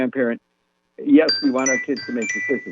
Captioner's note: chime